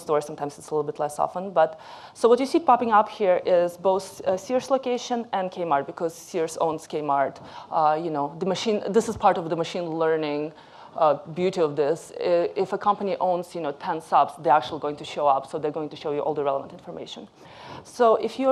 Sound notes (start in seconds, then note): none